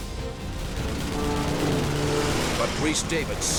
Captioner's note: weapons firing